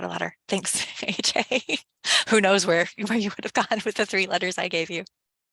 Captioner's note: laughs